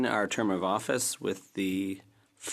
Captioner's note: speaking French